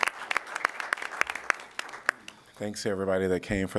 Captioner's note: applause